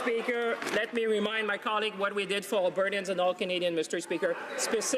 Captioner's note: some Applause